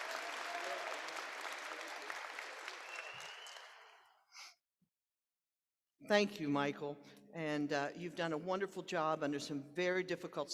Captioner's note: applause